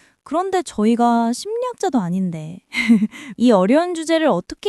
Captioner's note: laughs